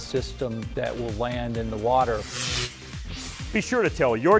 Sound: sound Effects

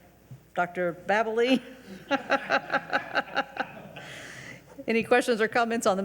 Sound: laughing; audience laughing

